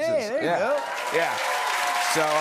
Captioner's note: cheers and applause